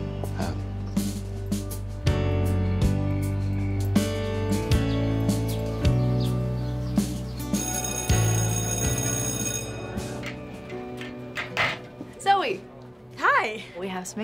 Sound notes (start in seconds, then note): 0.2 slow music; 7.5 school bell ringing; 11.3 door close